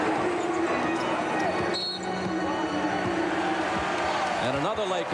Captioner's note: whistle blows